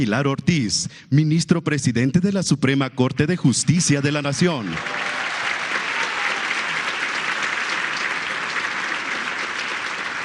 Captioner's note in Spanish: aplausos